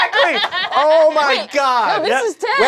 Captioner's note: cast laughing